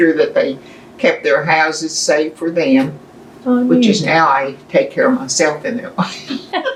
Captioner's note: laughter